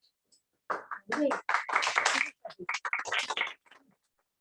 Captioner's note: applause